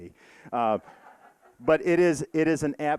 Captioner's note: audience laughing